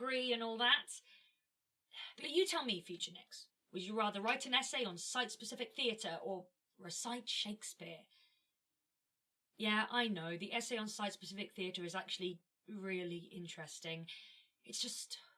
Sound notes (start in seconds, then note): 7.9 a pause